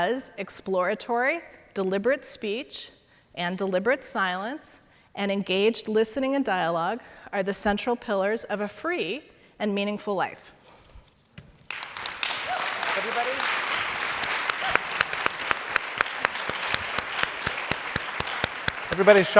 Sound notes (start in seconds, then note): 11.6 audience applauds